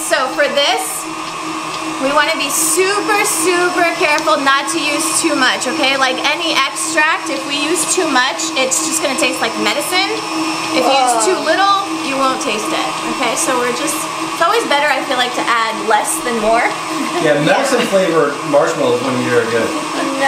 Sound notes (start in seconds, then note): 17.0 laughing